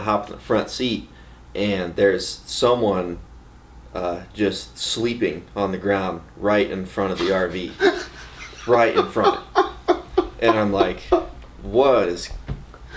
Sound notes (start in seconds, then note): 7.2 laughs loudly